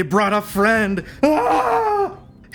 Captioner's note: screams in terror